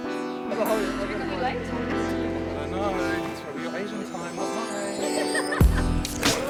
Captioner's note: chatter from passing pedestrians; upbeat music